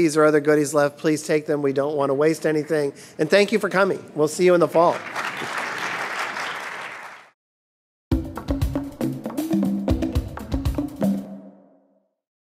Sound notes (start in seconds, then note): 4.8 audience applause; 8.1 upbeat music